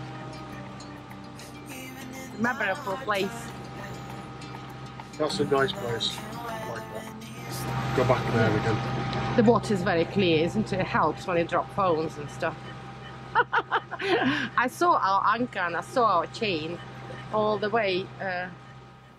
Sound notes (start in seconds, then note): 13.3 laughs